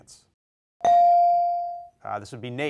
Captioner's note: bell rings